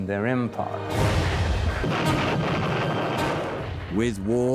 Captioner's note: cannons firing